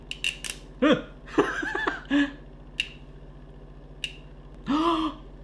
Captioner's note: laughing